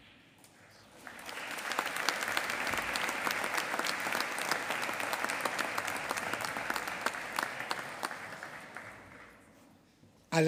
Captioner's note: applause